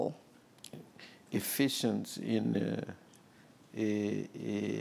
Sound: speaking portuguese

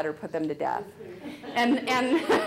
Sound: audience laughing

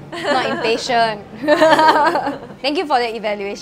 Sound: laughs

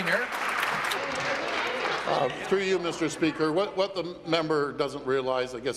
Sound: applause

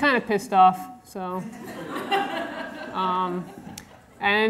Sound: audience laughter

